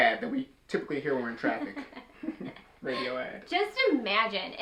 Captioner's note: chuckles